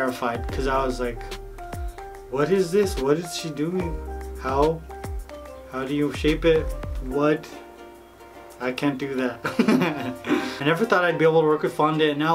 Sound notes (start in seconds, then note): 9.4 laughs